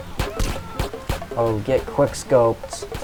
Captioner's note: air horn sfx + doritos & mtn dew